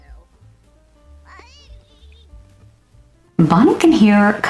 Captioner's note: baby cries